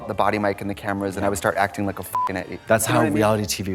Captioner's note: beep